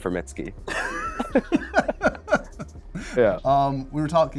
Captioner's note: both laugh